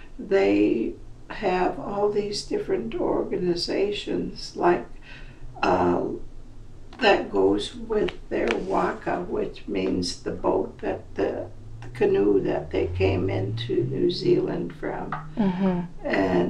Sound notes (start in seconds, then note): 8.1 non-english speech